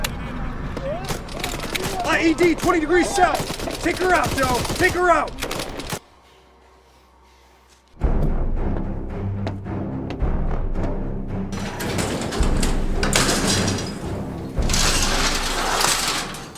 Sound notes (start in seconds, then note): 8.0 suspenseful orchestral music; 11.5 door clattering